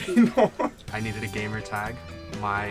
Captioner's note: laughing